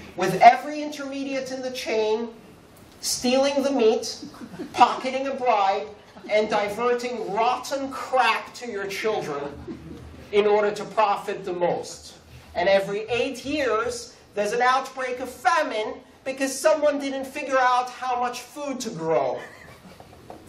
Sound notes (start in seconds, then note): 11.9 laughter